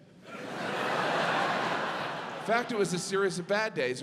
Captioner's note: audience laughs